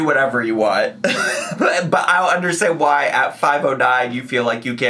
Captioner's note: wheezing